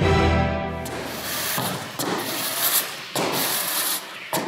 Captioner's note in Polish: szuranie bezwładnej nogi